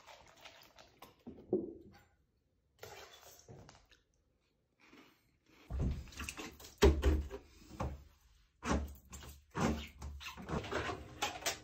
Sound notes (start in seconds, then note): 8.3 window squeaking